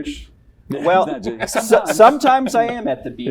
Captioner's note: laughter